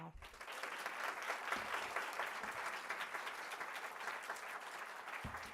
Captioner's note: audience applauding